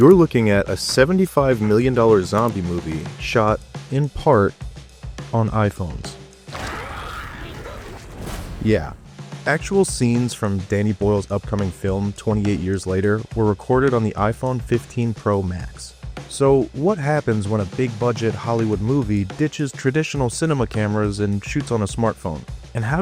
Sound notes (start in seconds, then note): 6.5 zombies growling